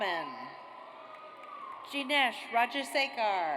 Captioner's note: audience cheers